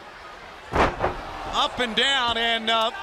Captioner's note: crowd chatter